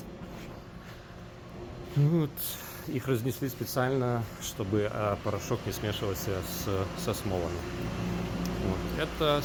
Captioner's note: printers